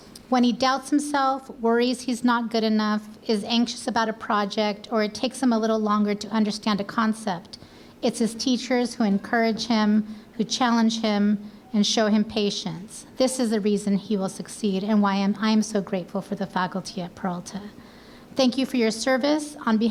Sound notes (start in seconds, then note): none